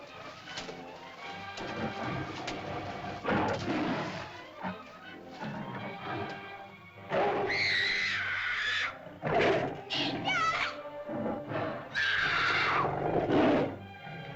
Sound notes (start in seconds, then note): 0.1 water splashes; 1.5 dinosaur growls; 3.2 water splashes; 7.1 dinosaur growls; 7.1 girl shrieks; 9.8 girl cries out; 11.9 dinosaur growls; 12.0 girl shrieks